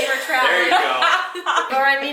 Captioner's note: laughs